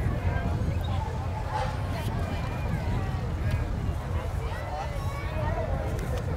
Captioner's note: revving and chattering continue